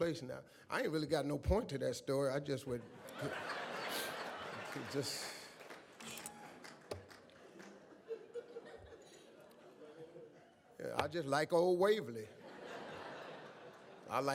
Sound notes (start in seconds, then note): 2.8 audience laughs